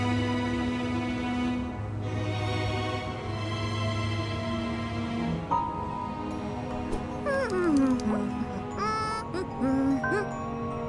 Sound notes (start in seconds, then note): 7.0 humming